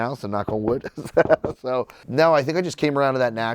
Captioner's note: laughs